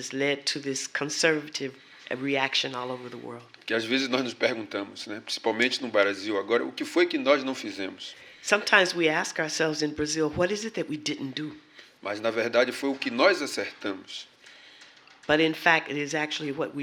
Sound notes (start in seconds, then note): 6.1 speaking portuguese; 13.5 speaking portuguese